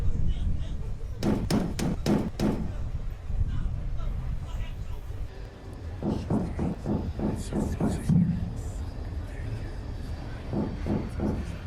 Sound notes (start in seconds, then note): 1.2 knock bangs on door; 6.0 Kenza knocking on door